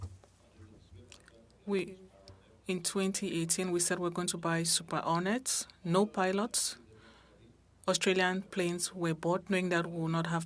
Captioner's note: speaking French